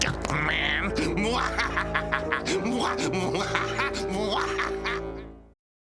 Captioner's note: laughing